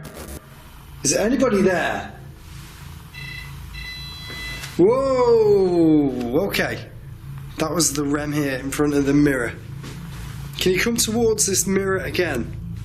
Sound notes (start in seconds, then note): 0.0 static; 3.0 beeping